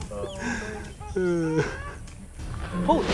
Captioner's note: animal growls